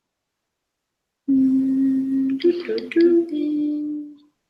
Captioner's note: both humming